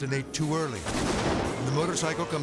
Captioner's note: explosion booms